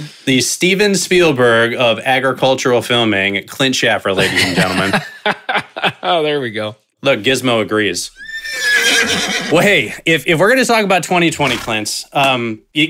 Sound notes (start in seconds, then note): 4.2 laughing; 8.1 horse neighing